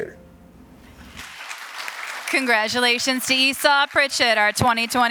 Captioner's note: applause